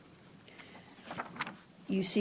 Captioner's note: rustling of papers